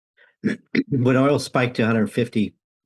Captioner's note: clears throat